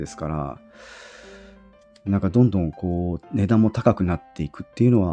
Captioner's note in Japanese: 息をのむ音; ため息